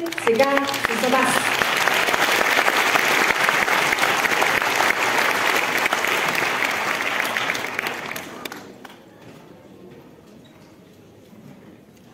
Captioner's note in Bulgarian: аплодисменти